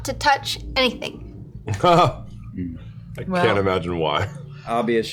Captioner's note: laughter